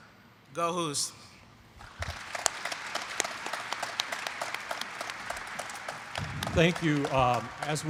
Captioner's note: applause